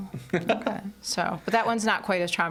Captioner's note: laughing